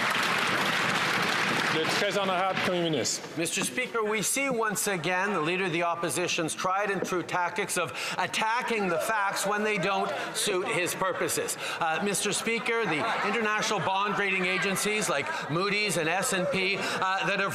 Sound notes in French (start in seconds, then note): 6.4 voix de l'interprète